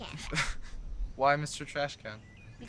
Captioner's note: Mark laughing